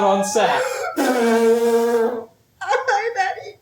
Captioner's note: HOSTESS blows her nose loudly